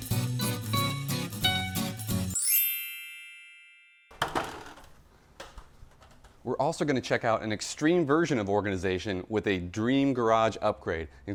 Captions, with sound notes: (chiming bell) We're also gonna check out an extreme version of organization with a dream garage upgrade,